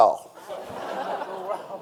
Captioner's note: audience laughing